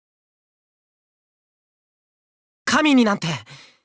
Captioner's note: silence